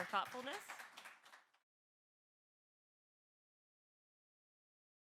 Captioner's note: audience clapping